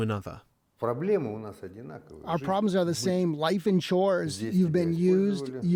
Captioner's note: through translator